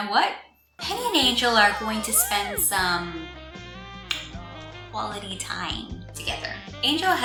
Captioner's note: saxophone music; lipsmack